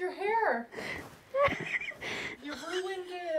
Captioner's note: laughing